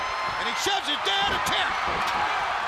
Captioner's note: crowd chatter